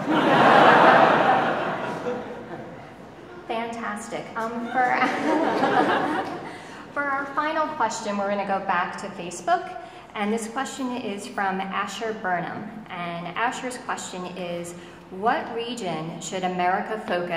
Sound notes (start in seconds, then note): 0.0 audience laughing; 4.8 audience laughing